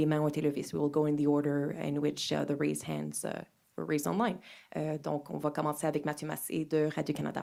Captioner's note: speaking french